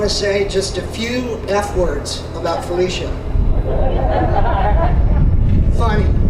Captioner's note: audience laughter